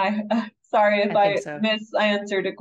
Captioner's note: chuckles